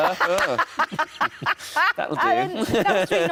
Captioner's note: Sarah laughing; Tom laughs